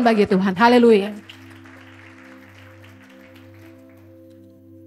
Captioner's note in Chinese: 会众鼓掌